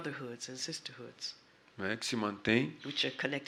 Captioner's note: speaking portuguese